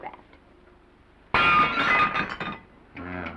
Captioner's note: plate shatters